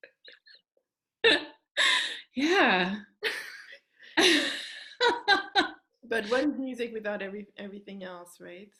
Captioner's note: rires